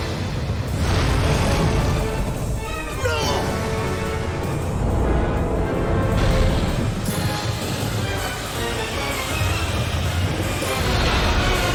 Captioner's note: T Rex roaring